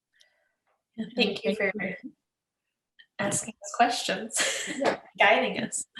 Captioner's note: laughs